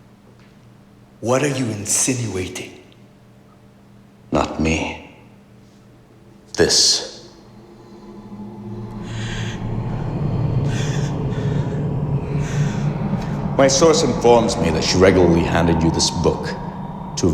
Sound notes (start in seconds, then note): 7.2 slow ambient music; 10.6 Dr. Ravi gasps